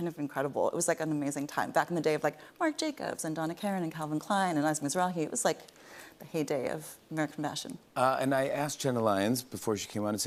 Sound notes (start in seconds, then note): none